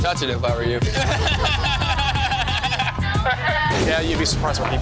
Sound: laughing

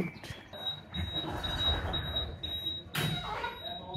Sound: beeping as door closes

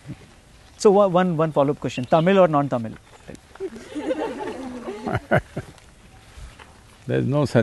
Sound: laughter

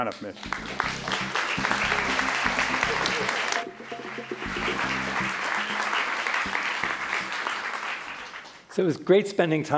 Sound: applause

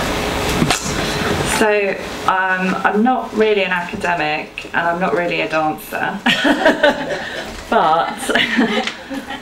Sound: she laughs

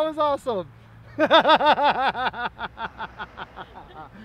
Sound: laughs

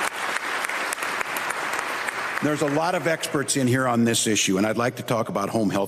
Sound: applause

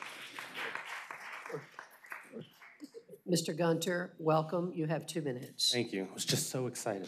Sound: applause

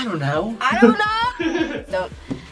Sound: laughs

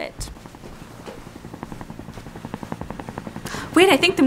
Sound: helicopter rumbling in background

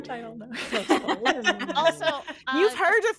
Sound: all laughing

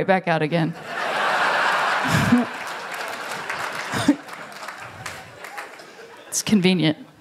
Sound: laughter; applause

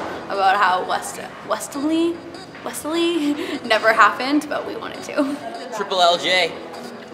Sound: chuckles

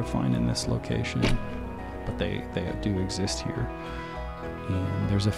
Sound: camera thumping

